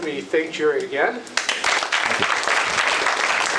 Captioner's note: applause